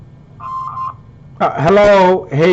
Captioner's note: beep